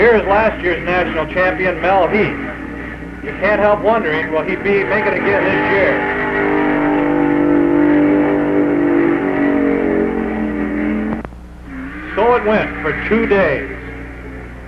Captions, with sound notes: Here's last year's National Champion, Mel Heath. You can't help wondering will he be able to make it again this year? (engine roaring) So it went, for two days.